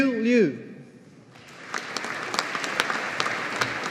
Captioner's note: audience applauding